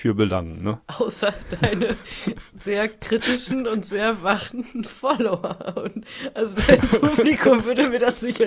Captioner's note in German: gelächter